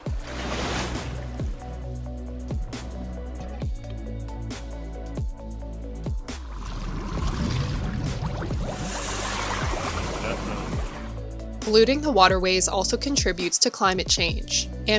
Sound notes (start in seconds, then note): 0.0 water splashing; 0.3 gentle music; 6.3 water bubbling